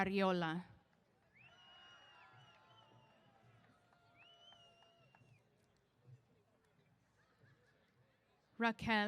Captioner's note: cheers